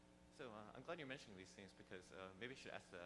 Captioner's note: voiceover